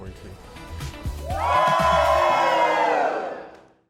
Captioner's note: cheering